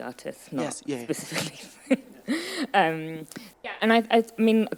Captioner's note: laughing